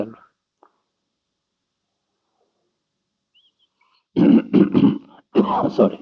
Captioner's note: coughing